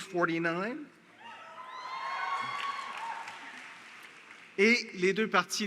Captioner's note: Applaudissements